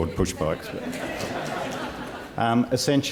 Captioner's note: laughter